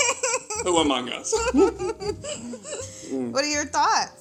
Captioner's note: both laugh